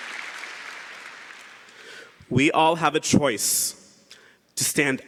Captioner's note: cheering & Applause